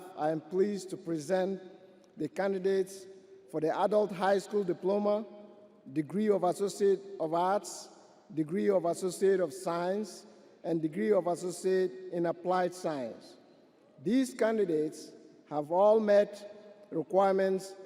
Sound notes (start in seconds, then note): none